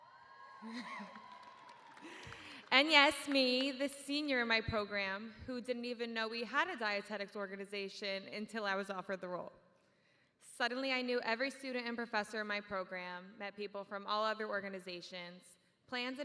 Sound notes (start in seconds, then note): 4.1 cheers